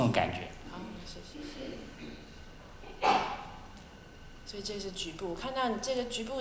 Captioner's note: Mandarin